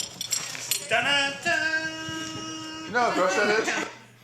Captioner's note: humming theme